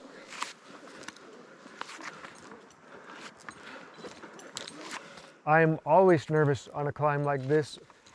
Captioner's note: breathing